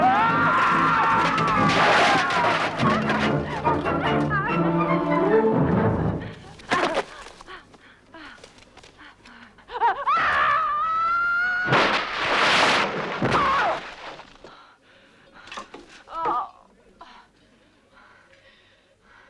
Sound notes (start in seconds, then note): 0.0 guards screaming; 1.5 armor clattering; 6.9 Hundra grunts; 10.0 Hundra screaming; 13.3 Hundra grunts; 16.1 Hundra groaning